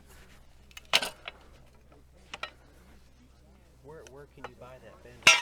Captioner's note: metal bangs